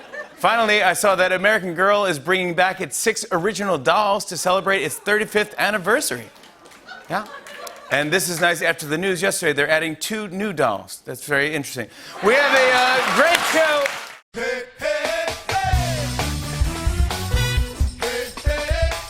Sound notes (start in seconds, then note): 0.0 laughter; 7.2 applause; 12.2 cheering and applause